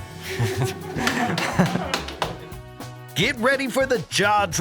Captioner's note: laughs